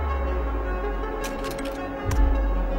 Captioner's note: ominous music; slide projector clicks; ominous music